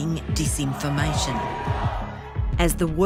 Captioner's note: crowd